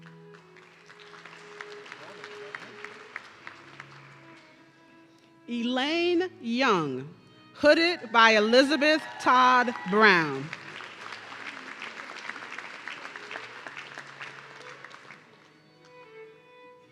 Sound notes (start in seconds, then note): 0.0 audience clapping; 8.3 audience cheering